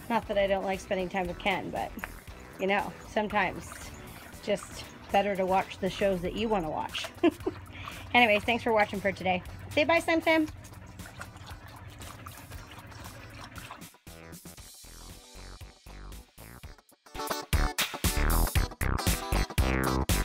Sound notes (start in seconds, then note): 6.8 laughs; 11.7 water splashing; 14.2 upbeat pop music